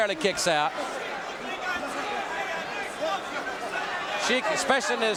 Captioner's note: audience cheering